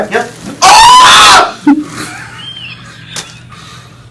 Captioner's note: screaming